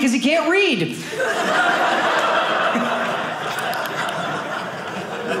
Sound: audience laughing

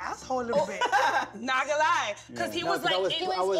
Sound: laughs

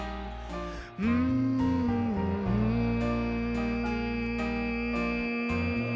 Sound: humming melodically

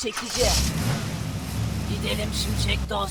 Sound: car sound

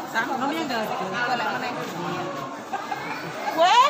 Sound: many Housewives Cry

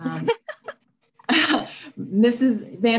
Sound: laughing

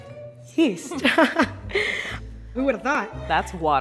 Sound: giggles

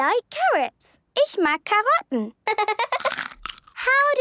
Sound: laughter

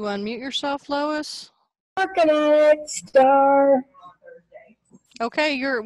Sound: on phone

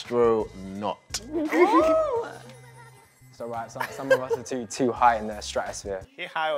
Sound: laughing

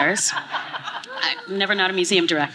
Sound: laughing

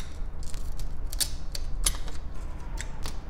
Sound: cracks

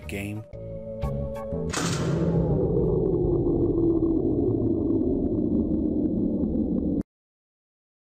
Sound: sound of a machine shutting down is heard

